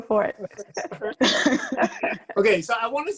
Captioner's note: laugh